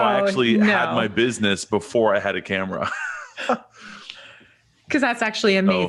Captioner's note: chuckles